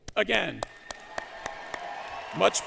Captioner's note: applause